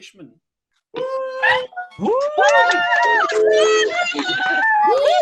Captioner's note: attendees cheering